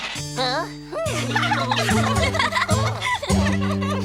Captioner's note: laughing